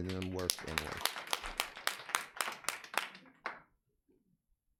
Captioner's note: audience applauds